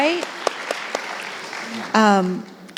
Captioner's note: applauding